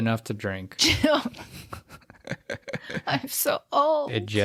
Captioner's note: both laugh